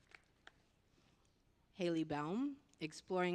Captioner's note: applause